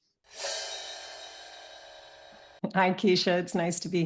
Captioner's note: gong clangs